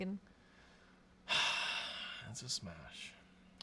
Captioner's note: sighs